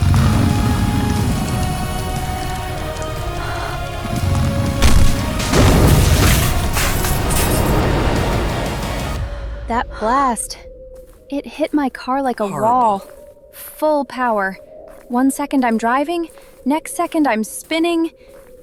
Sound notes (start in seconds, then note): 0.0 car burning; 4.8 car explosion